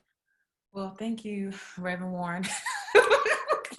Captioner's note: laughs